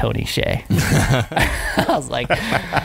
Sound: laughing

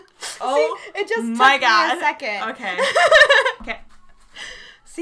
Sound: laughs

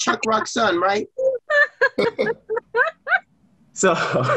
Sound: laughs

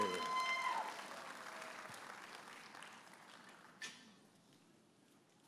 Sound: audience applauding and cheering

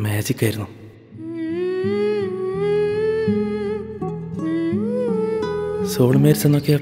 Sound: 𝅘𝅥𝅮 Humming 𝅘𝅥𝅮

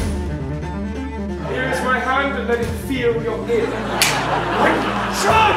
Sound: slap

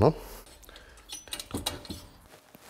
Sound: tinkle

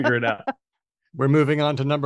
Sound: laughs

